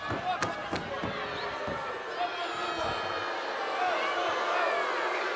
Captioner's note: audience booing